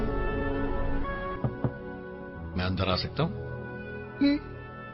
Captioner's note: knocking